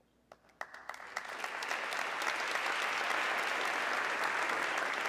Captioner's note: audience clapping